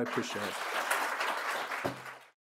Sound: audience applauds

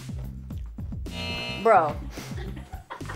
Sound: buzzer

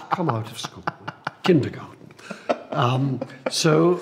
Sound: laughs

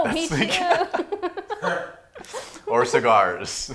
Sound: laughing

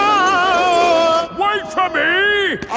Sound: yelling

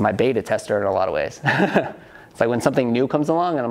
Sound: laughs

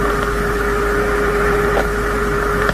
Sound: rocket Hitting Left Engine

